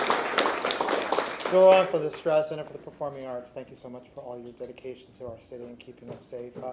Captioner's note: applause